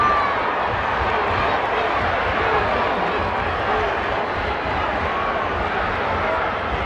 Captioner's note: crowd talking indistinctly continues